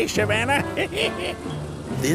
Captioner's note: laughing